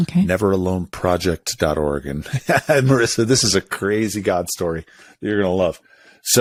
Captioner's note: laughs